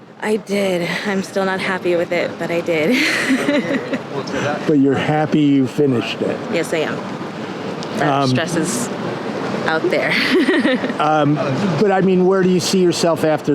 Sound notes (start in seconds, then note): 10.0 laughing